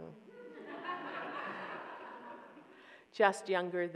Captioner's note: audience laughs